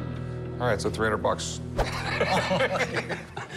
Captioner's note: laughter